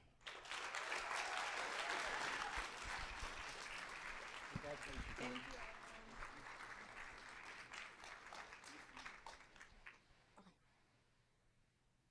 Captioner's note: applause